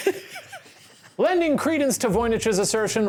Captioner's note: laughing